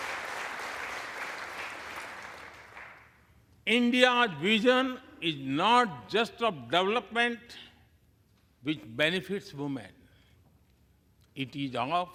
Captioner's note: applause